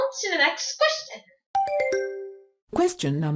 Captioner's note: question ding